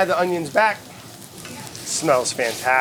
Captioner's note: pan sizzling